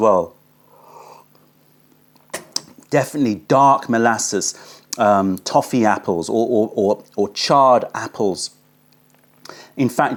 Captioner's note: sips tea